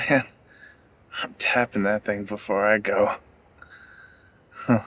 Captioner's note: laughs